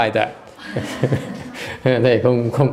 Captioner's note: laughter